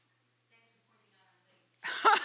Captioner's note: laughter